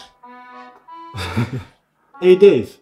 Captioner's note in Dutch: Lacht